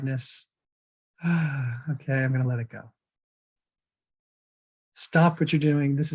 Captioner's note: sighs